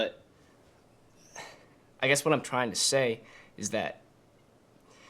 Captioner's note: sighs